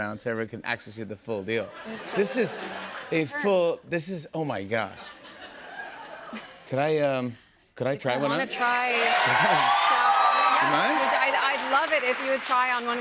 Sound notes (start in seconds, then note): 8.7 cheers and applause